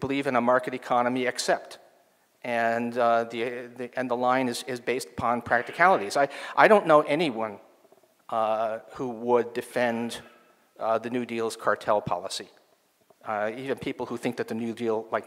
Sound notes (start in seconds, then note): none